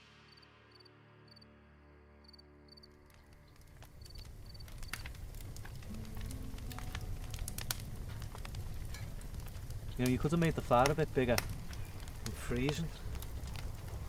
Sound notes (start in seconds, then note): 0.3 faint crickets; 4.9 fire crackling